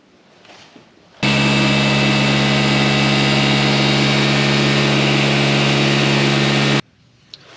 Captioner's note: air pump sound